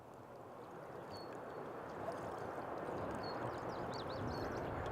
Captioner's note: birds tweet; water babbles